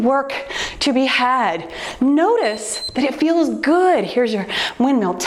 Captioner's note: timer beeps